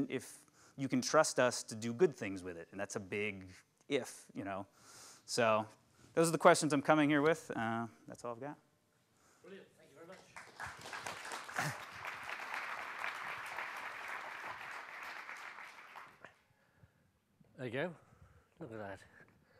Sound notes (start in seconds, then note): 10.1 clapping